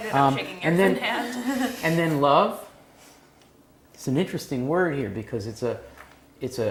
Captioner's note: laugh